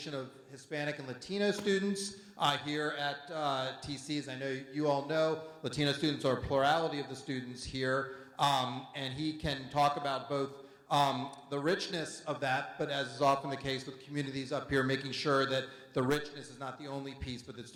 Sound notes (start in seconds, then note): none